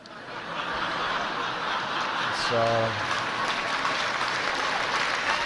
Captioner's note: cheers and applause